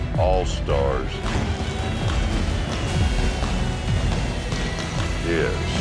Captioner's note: fireworks